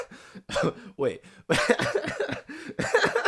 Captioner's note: laughter